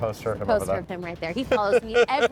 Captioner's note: laughing